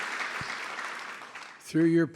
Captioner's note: applause